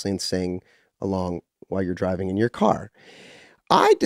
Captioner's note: none